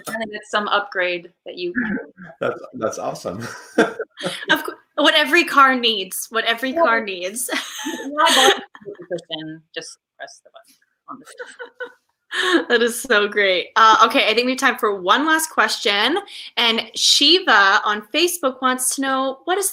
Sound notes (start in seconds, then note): 4.4 laughs; 6.6 laughs